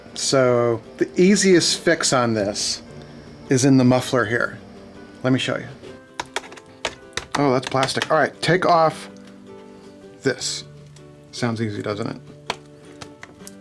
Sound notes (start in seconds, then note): 6.1 tapping